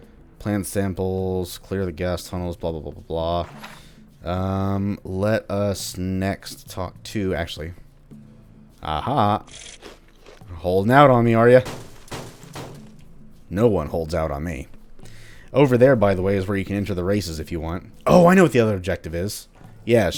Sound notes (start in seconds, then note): 3.4 journal closes